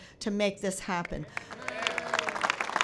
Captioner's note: applause